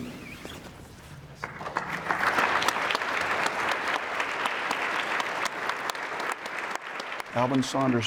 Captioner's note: crowd applauds